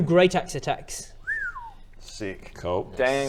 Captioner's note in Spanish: silbido impresionado